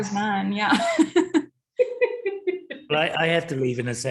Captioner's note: chuckles